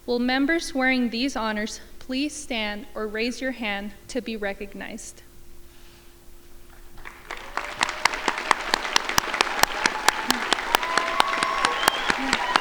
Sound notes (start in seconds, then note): 6.8 crowd applauding